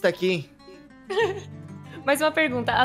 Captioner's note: laughs